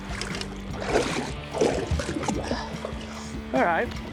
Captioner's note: water burbling